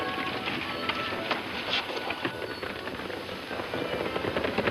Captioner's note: hooves clopping